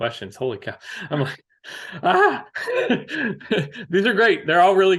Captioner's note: laughs